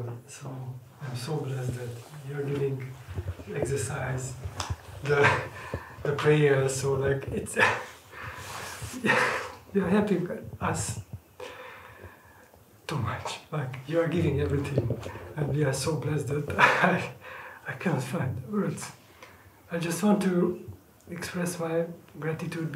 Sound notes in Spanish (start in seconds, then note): 9.0 risas